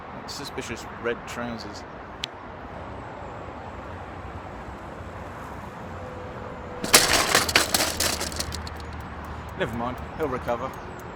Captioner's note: man cycles past and SFX of cycle crash